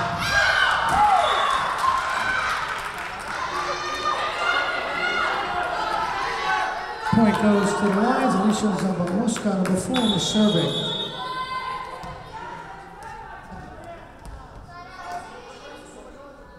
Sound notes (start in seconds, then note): 1.2 whistle blowing; 9.9 whistle blowing